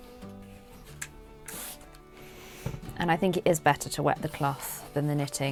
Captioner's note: water sprays